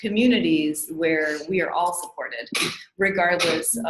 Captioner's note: sneezing